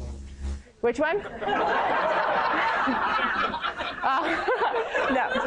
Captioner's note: laughter